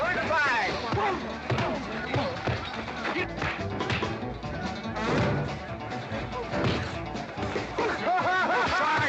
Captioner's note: western fight music; sounds of scuffling & fighting